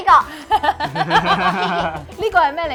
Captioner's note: all laughing